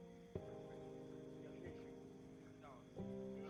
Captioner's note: neighbours talking outside